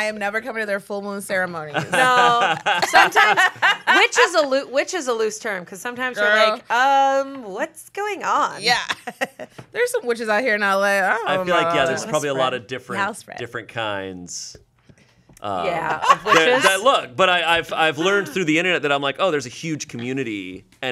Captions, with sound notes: - I am never coming to their full moon ceremonies. - No. (everyone laughs) Witch is a loose term. 'Cause sometimes you're like, "What's going on?" - Yeah. (laughs) There's some witches out here in LA, I don't know. - I feel like, yeah, there's probably a lot of different kinds. - Yeah, of witches? - I've learned through the internet that I'm like, oh, there's a huge community